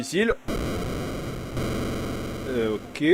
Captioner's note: explosions sound